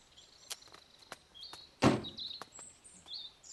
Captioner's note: car door closing